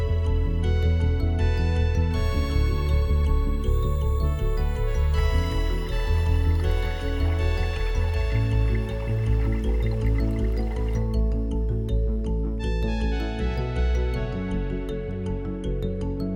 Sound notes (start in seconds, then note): 4.8 babbling creek sound